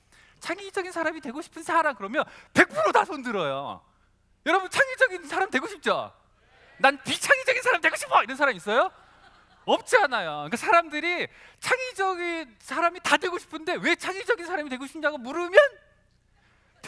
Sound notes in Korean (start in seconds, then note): 8.8 웃음